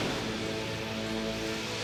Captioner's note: jet whooshes away